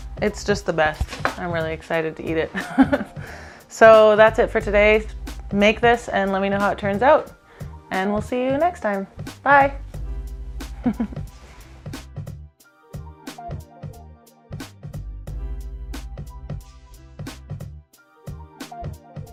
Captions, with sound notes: It's just the best, I'm really excited to eat it. (laughs) So, that's it for today. Make this, and lemme know how it turns out, and we'll see you next time, bye. (low-tempo beat)